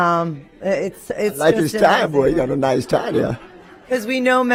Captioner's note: laughter